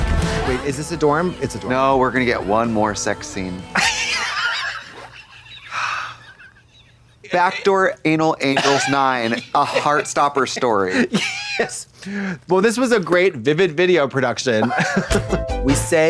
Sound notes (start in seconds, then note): 3.8 Trixie sighs; 14.6 Blonde Women chuckle; 15.2 synth bop